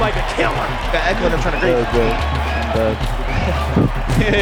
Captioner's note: indistinct chatter